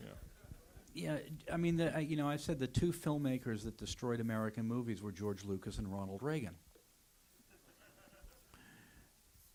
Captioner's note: laughter